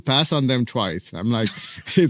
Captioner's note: laughs